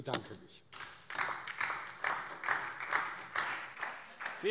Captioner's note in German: Beifall DIE LINKE, SPD und Freie Demokraten